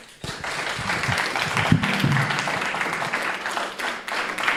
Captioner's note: group applauding